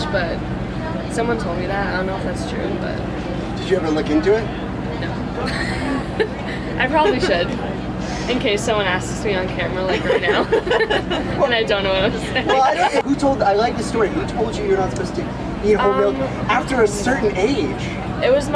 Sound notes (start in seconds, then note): 5.4 laughs; 9.8 laughter